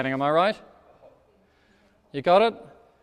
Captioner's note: speaks off microphone